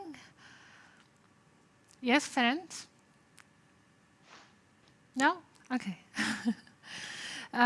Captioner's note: laughter